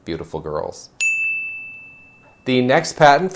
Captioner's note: bell rings